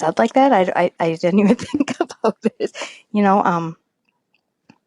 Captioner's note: chuckles